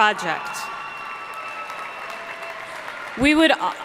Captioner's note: audience cheering and applauding